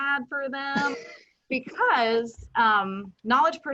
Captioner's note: chuckles